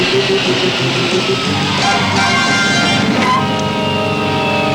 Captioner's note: tires screeching